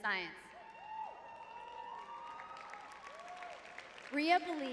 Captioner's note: audience cheering; audience applauding